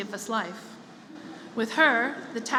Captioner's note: laughter